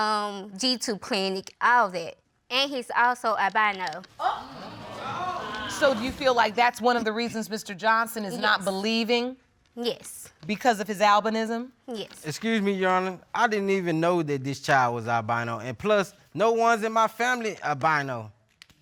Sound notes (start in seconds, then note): 4.2 audience exclaiming